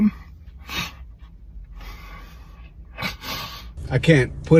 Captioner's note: sobs